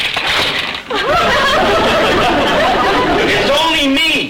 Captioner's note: audience laughter